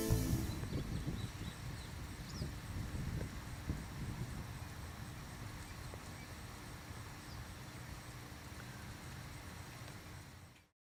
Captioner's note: sounds of nature: wind, birds